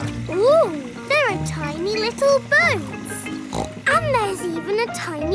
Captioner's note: snorts